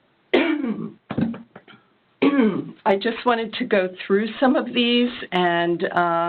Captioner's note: cough